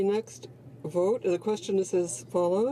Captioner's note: speaking French